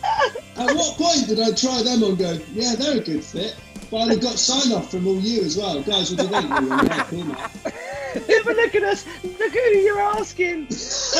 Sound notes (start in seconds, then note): 0.0 laughing; 7.6 laughing; 10.7 laughing